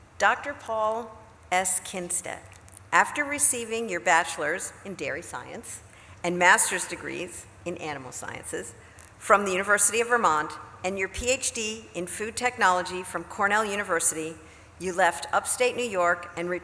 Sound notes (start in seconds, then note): none